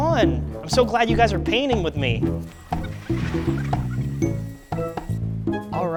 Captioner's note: sped up voice squeaks